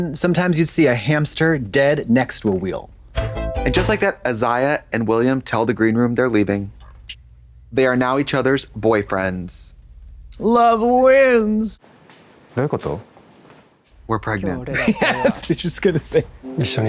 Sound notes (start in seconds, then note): 3.2 synth bop; 7.0 Katya snaps